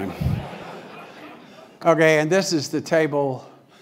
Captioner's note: laugh